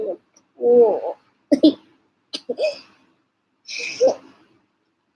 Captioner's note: covers face with fan and laughs again